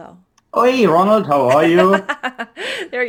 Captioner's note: laughing